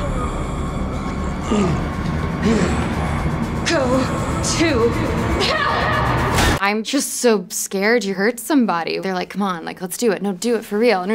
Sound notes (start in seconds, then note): 1.6 Tom groans